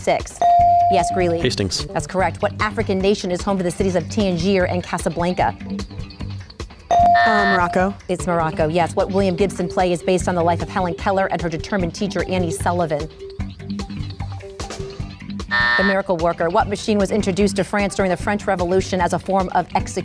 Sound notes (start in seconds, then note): 0.4 ding; 6.9 ding and buzz; 15.5 buzz